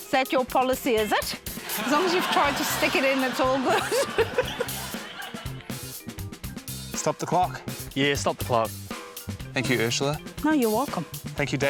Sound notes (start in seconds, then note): 1.6 laughter; 6.4 laughs